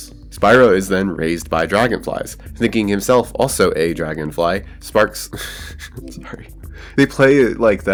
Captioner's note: laughs